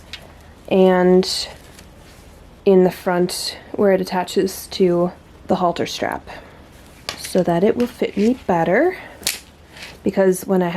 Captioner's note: buttons clink